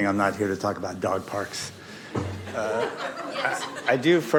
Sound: laughter

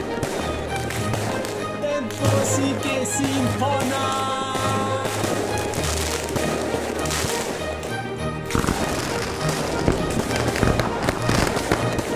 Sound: in many different languages

